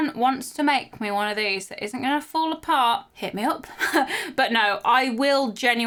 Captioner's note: chuckling